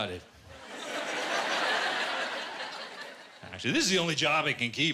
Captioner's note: laughter